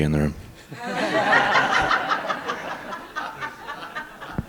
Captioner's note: all laughing